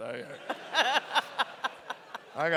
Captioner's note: laughter